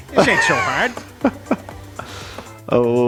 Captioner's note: laughs